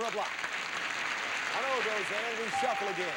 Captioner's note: audience applauding